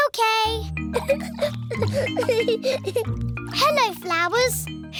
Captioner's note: giggling